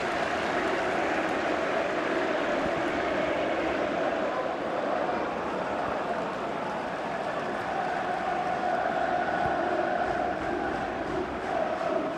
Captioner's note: applause